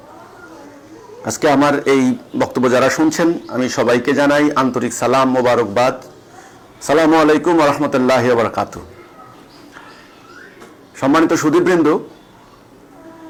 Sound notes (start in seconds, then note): 6.9 Arabic